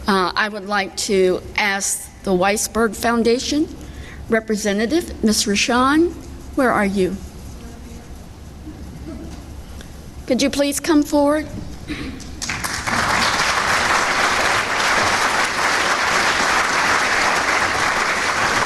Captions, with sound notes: I would like to ask the Weissberg Foundation representative, Ms. Ricshawn, where are you? Could you please come forward? (clapping)